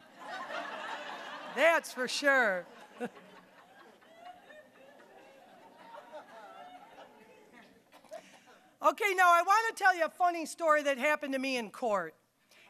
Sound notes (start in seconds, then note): 0.1 audience laughing; 3.5 audience laughing